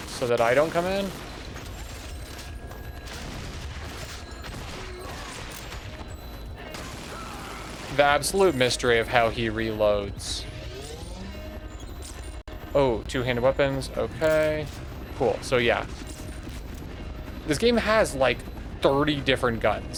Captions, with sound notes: So that I don't come in. [Gunshots] The absolute mystery of how he reloads. Oh two handed weapons. Okay cool so yeah this game has like 30 different guns.